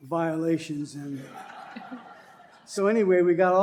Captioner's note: laughter